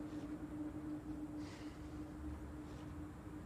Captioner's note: sighs